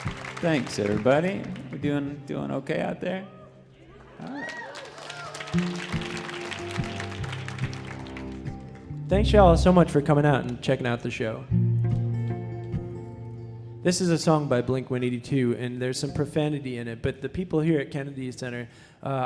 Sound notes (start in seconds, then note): 3.9 crowd cheering and applauding